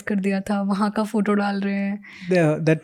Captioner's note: speaking in Hindi